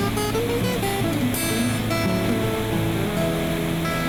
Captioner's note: machines whirring